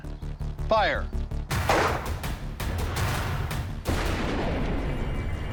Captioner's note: gun firing